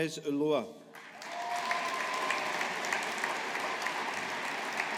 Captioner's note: audience applauding